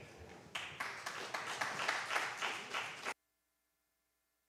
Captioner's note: applause